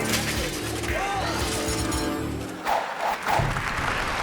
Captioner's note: bicycle clattering; logo whooshing; audience applauding